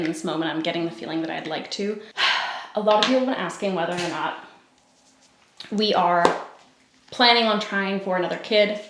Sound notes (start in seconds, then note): 2.2 sighs